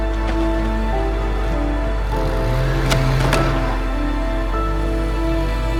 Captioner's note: motorized sawing; crashing; motor revving; somber music